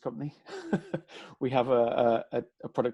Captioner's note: laughs